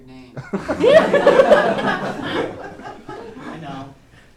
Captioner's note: laughter